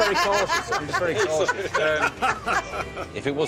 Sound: dealer and players laughing

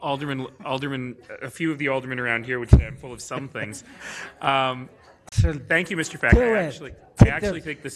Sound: laughter

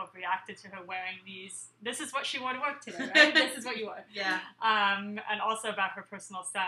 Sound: laughing

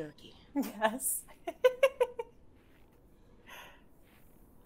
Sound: game Master laughs

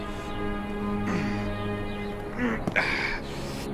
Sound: grunting

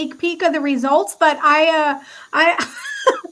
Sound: laughs

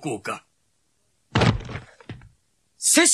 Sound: SFX: drops

